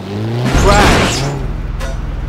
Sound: crash

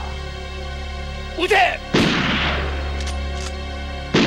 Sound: gunshot

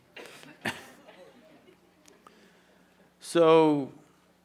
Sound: laughs

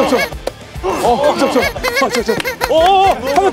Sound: making pigeon sound

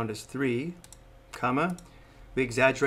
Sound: mouse clicks

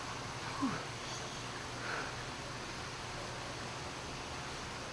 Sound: alligator wrestler sighs

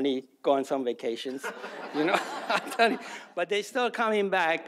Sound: audience laughs; laughter

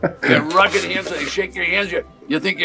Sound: host laughing

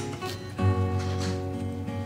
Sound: sniff

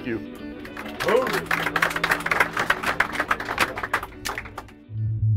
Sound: everybody clapping

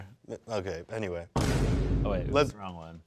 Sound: soundboard rumbles

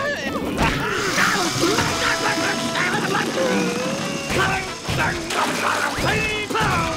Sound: groaning

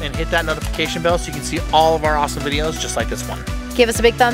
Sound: none

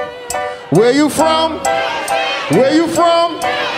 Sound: audience shouting

